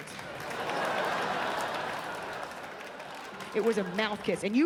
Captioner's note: audience laughs and claps